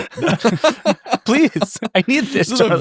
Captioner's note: laughing